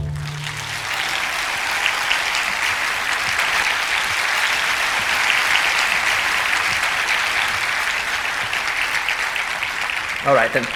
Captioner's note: applause